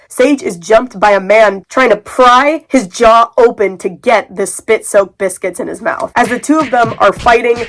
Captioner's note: various punching sounds